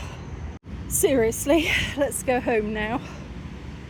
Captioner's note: sigh